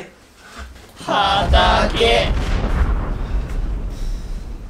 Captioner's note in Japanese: 謎の衝撃音